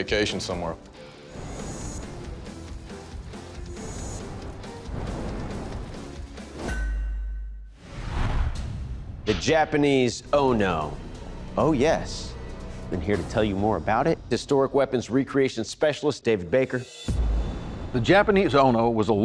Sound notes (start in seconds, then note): 0.0 dramatic rock music playing; 6.7 clank